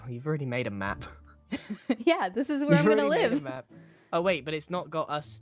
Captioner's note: laughs